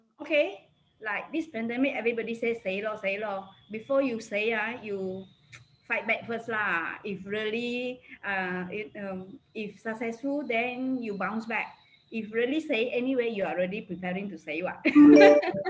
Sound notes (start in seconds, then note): 3.0 foreign language; 4.5 speaks foreign language; 12.6 speaks foreign language; 14.9 laughs